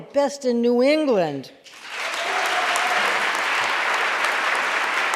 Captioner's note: audience applauding